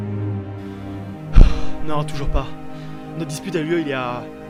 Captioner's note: sigh